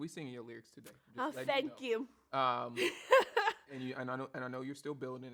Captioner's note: laughs